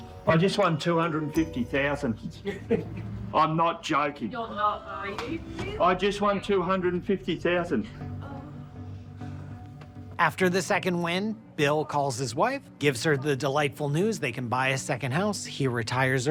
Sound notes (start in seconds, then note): 2.3 news crew laughing